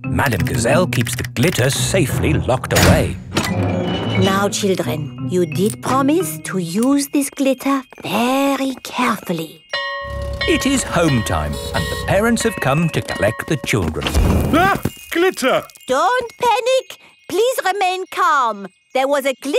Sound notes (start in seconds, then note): 9.6 school bell ringing